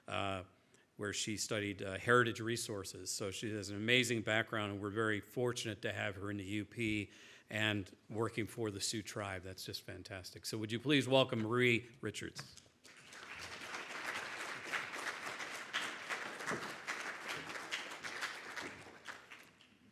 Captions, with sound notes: where she studied Heritage Resources. So she has an amazing background and we're very fortunate to have her in the UP and working for the Sioux Tribe. That's just fantastic. So would you please welcome Marie Richards. (crowd applauding)